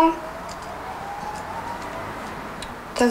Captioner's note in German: Entfernte Sirene